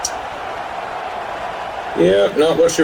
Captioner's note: crowd Noises